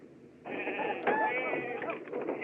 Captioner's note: sheep Bleating; chattering